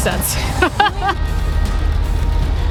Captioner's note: laughs